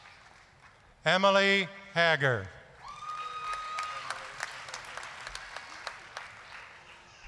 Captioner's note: applause, cheering